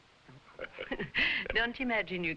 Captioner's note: both chuckling